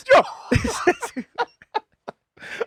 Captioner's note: laughing